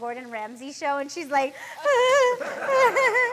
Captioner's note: cries